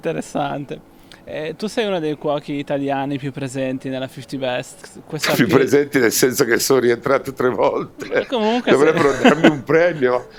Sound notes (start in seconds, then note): 8.4 laughs